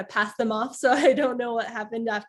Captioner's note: laughter